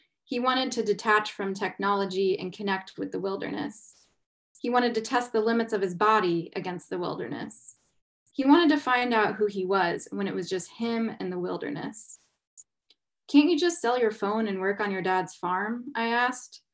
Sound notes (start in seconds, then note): none